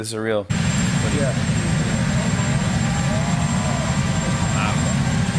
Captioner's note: helicopter blades whirring